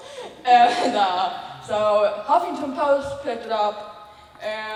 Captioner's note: laughs